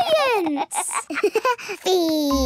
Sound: giggles

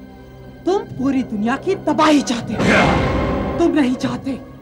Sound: grunting

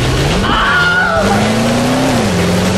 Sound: Wilhelm scream

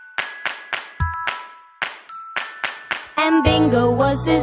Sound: clap

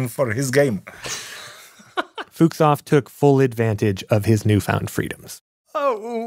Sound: laughs

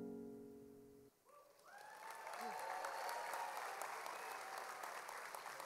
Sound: audience applauds

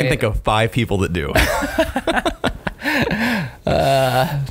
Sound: laughing

